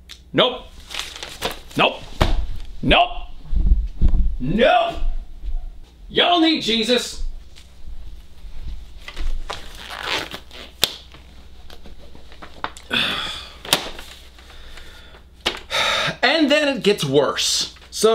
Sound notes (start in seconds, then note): 5.8 shouting off camera; 12.8 sigh